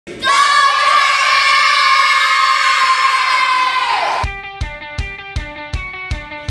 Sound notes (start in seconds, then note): 0.2 cheering; 4.2 upbeat music playing